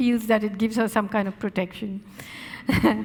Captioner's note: laughing